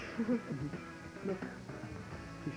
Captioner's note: laughs